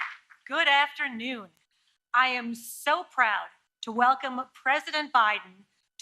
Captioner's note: applause